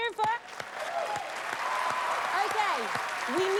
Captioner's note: cheers and applause